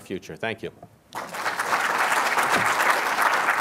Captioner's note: applause